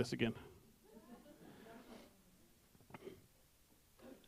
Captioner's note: background voices